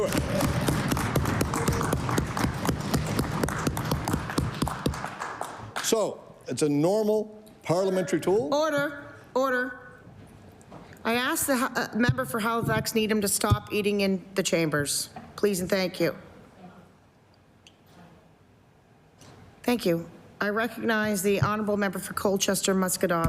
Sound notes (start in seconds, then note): 2.9 applause